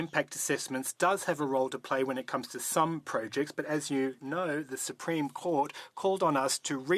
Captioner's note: speaking French